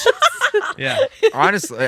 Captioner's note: laughing